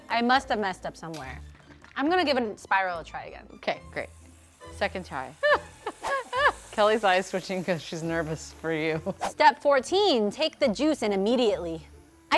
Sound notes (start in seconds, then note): 5.3 woman laughing